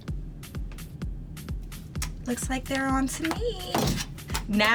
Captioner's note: smacks lips